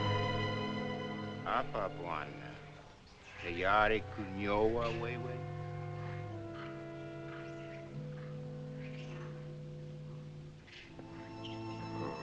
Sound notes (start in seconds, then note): 1.4 speaking African Language